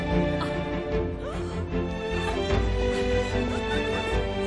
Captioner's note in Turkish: Gülüyorlar